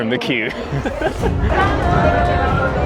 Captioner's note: laughter